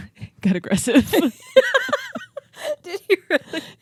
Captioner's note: both laughing